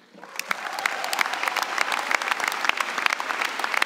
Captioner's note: applause